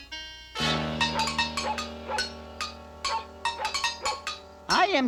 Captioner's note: dog barking